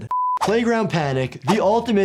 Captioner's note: sound beeps